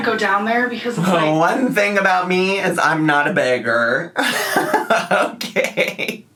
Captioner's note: laughs